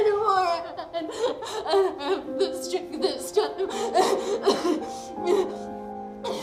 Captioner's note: sobbing; dramatic orchestral music